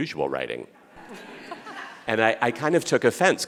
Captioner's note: audience laughing